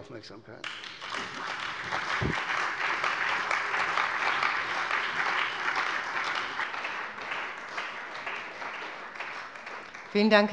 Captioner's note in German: Beifall bei der CDU und dem BÜNDNIS 90/DIE GRÜNEN